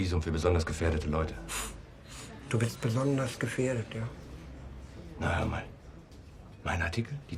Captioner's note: scoffs